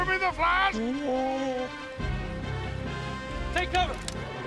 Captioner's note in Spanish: Alvar lloriqueando